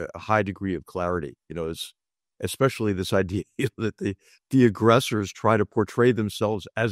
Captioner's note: laugh